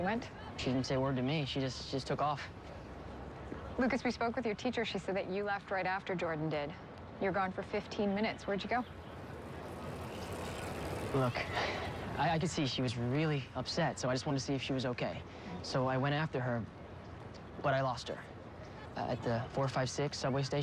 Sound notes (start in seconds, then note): 10.9 sighs